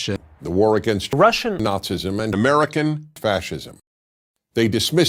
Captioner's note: Russian